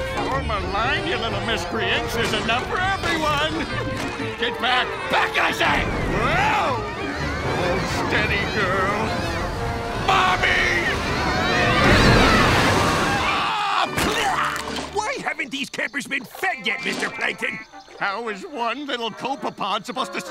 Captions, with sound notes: Form a line, you little miscreants, there's enough for everyone! Get back! Back, I said! Whao! Steady, girl... Mommy! [shouting] [screaming] Why haven't these campers been fed yet, Mr. Plankton? How is one little copepod supposed to serve